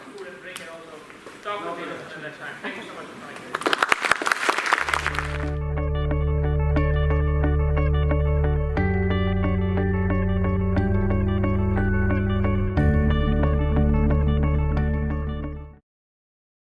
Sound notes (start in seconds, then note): 3.3 applause; 5.8 relaxing music